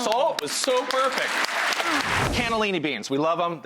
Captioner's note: audience clapping